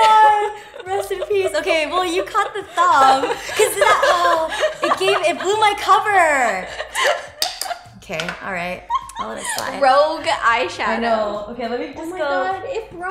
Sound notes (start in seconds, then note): 8.8 giggles